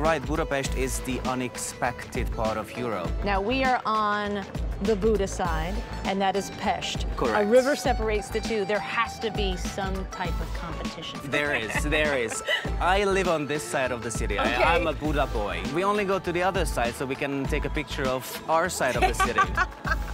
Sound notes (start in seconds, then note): 11.3 laughing